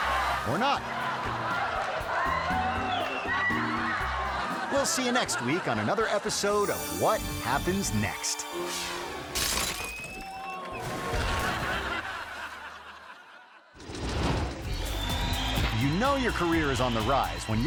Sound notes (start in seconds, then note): 0.0 audience laughing; 8.9 air whoosh; 9.3 ball shattering; 10.6 water splashing; 10.9 audience laughing; 14.1 logo swooshing; 14.6 audience cheering